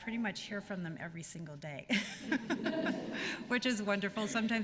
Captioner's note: laughter